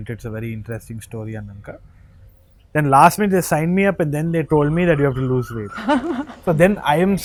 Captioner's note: laughs